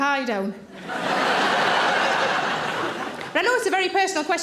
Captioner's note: audience laughing